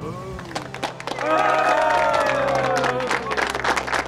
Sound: cheering

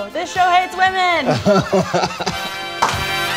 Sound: laugh

